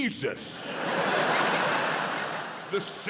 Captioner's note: audience laughs